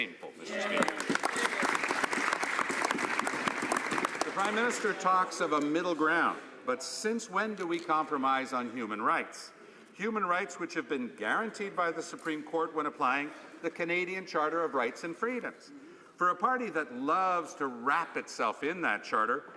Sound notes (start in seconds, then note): 5.2 some Applause